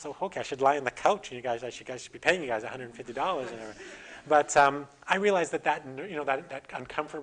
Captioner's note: audience: Laughter